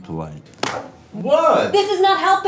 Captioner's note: slap echoes